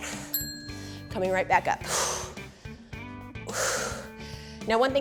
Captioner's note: exhales